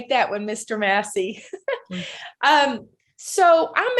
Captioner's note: laughing